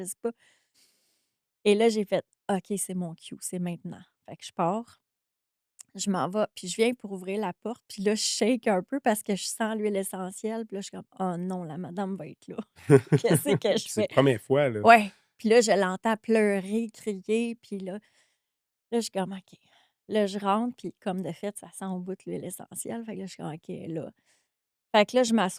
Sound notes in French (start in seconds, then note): 12.8 rires